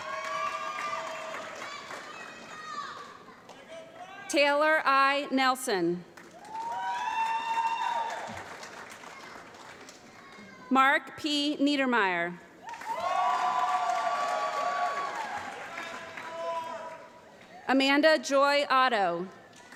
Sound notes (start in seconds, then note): 0.0 applause; 6.1 applause; 12.6 applause